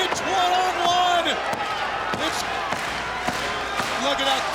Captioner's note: audience clapping